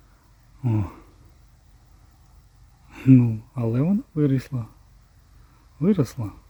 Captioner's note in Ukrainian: сопіння